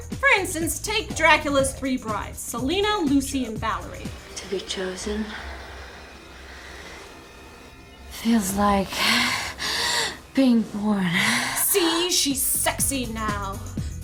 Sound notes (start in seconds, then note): 9.0 gasp; 11.6 voiceover